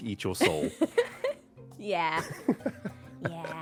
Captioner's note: laughs